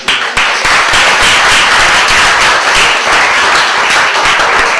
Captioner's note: applause